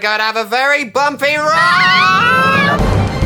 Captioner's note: screams